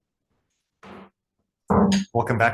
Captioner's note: banging gavel